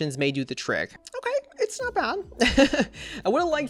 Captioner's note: laughs